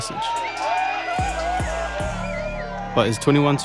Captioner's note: cheering